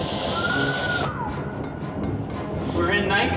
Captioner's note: man whistling